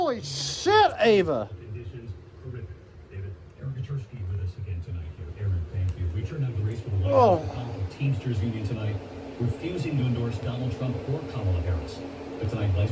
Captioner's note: "ABC World News Tonight with David Muir" plays in background